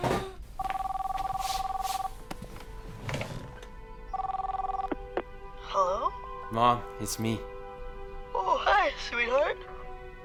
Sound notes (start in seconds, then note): 0.6 le téléphone sonne